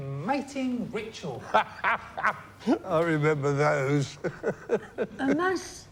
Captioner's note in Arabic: يضحك